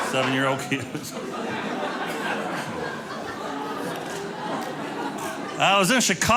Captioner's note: audience laughing